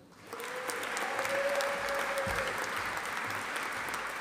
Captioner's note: audience applauding